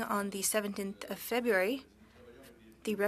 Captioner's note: speaking French